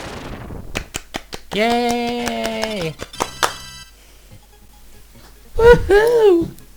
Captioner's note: clapping